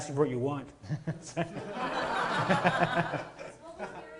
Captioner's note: laughing